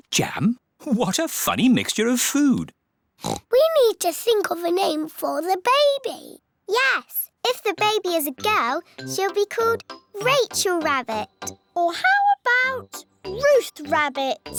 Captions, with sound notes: What a funny mixture of food! (OINKS) We need to think of a name for the baby. Yes. If the baby is a girl, she'll be called Rachel Rabbit. Or how about Ruth Rabbit?